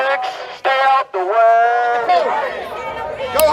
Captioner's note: crowd shouting; crowd shouting